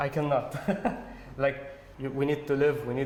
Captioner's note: laughter